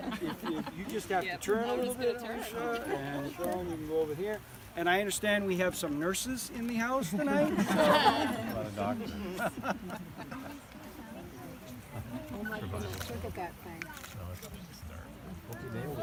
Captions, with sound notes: So, if you'd just turn a little bit, Alicia, and Sean you go over here... And I understand we have some nurses in the house tonight? [laughter]